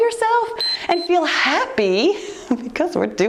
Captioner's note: timer beeps